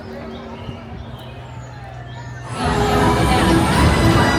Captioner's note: birds chirping; bright music; cars rumbling